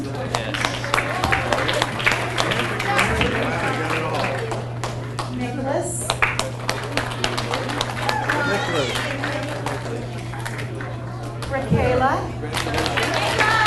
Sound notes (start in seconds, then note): 0.0 audience applauds; 3.6 people chattering; 6.0 audience applauds; 12.5 audience applauds